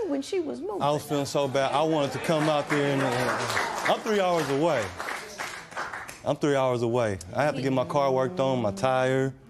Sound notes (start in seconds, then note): 1.9 applause